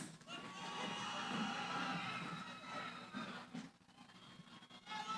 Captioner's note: cheering